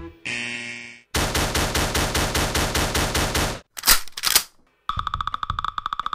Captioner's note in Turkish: Bir varilin neresinden çıkardıysa silah çıkarıp jüriye ateş etme sesleri